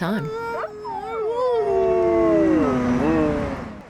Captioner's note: dog howling